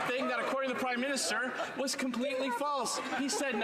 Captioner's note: some Applause